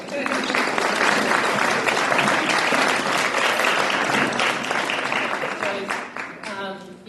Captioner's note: applause